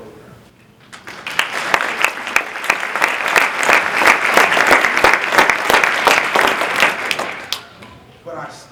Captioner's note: applause